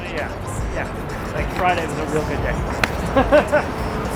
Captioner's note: laughs